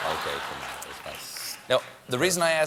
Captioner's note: audience reacts